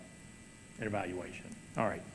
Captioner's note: none